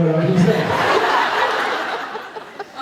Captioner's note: laughs